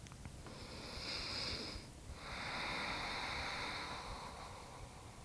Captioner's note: breathing deeply